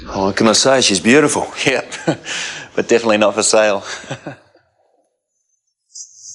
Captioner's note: chuckles